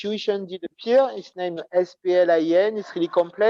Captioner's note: non-english speech